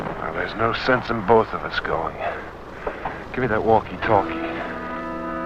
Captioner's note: soldier whistling